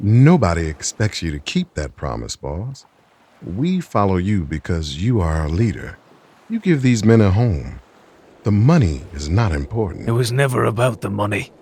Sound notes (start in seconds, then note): none